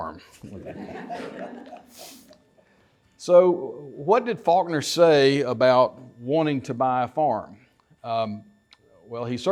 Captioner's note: laughter